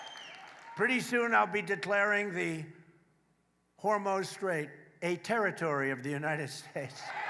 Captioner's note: applause